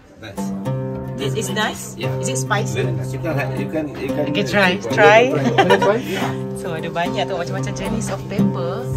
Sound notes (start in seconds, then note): 5.0 laugh